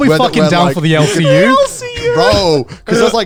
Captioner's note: laughing